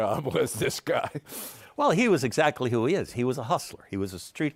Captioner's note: chuckles